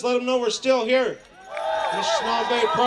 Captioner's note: cheering